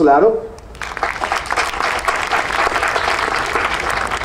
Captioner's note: audience applauding